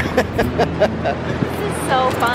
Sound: laughter

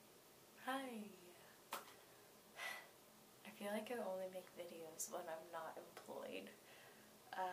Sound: sigh

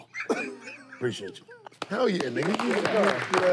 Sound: laughter

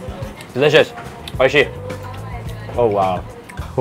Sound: speaks in foreign language

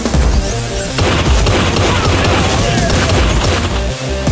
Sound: gunshot

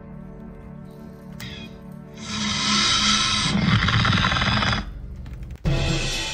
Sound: Raptor growling; suspenseful music

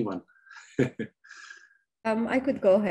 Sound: chuckles

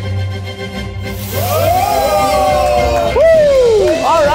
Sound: dramatic music; hibachi sizzles; guests cheer

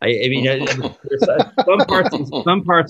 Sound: laughs

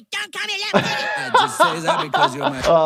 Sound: doctor laughing

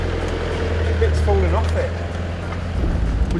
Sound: tinging

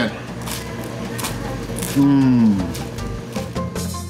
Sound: bread crunching noises

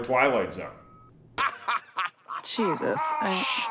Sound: laughing

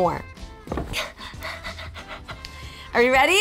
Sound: panting

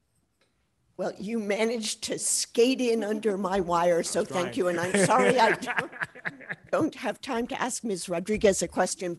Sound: laughter

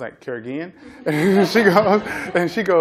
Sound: laughter

